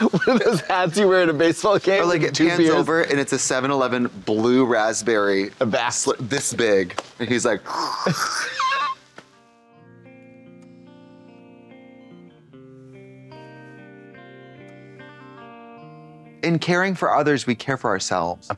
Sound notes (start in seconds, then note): 8.2 Trixie slurps; 9.1 Katya slaps